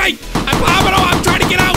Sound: balloons popping

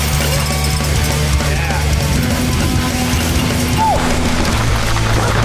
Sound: dramatic music; crowd; dramatic music; crowd; dramatic music

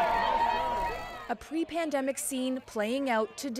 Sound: cheers and Applause

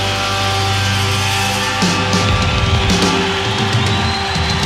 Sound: crowd cheering

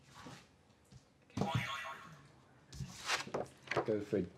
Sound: boing

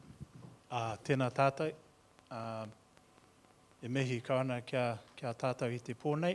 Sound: speaking in foreign language

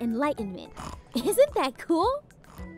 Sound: snoring

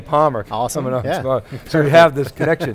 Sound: laughs

